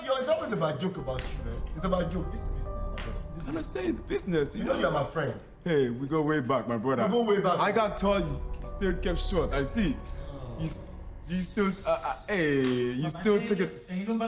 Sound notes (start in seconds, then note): 10.4 Baba groaning